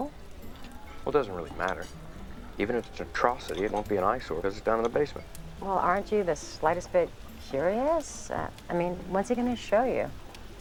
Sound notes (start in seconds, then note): none